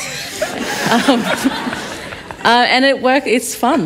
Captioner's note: laughter